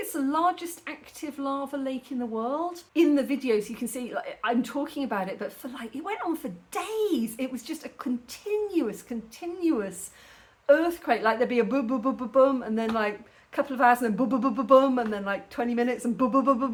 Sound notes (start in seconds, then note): none